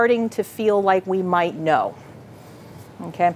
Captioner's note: none